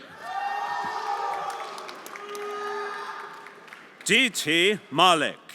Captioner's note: everyone applauding and cheering